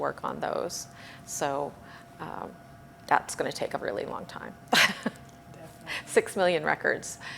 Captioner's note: chuckles